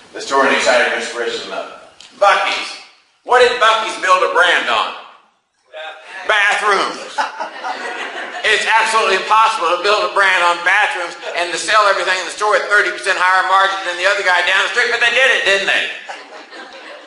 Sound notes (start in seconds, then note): 6.9 class laughs